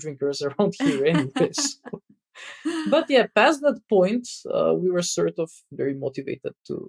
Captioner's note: <Laugh>